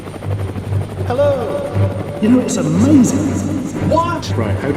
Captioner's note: from inside helicopter